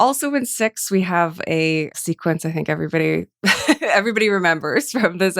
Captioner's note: laughs